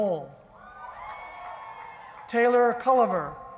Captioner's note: cheering